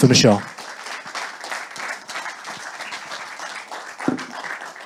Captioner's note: audience applauding